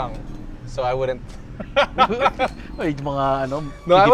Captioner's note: laughs